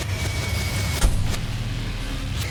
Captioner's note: door banging; dramatic music